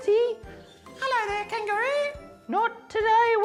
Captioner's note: high-pitched vice